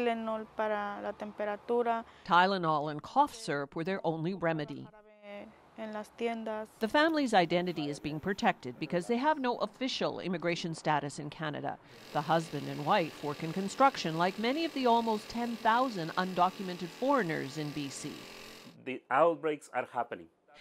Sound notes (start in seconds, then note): 9.2 speaking spanish language